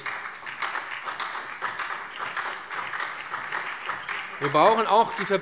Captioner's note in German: Beifall BÜNDNIS 90/DIE GRÜNEN und vereinzelt SPD